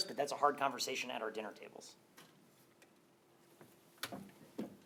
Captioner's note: thud